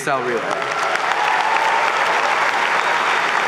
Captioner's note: applause